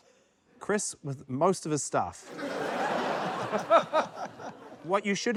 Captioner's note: laughter